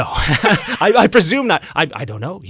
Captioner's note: laughs